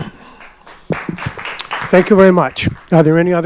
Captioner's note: audience applauding